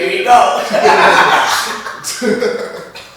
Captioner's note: laughter